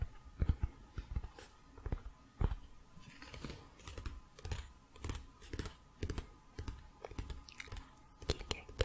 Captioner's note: tapping on pages